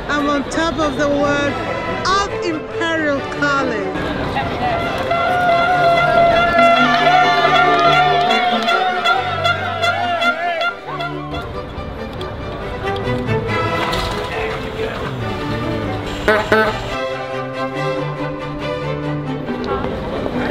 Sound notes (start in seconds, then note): 4.0 excited chatter; 6.8 excited cheering; 12.5 triumphant music; 13.6 engine starting; 16.3 horn honking; 17.3 triumphant music